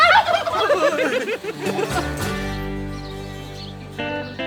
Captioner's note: laugh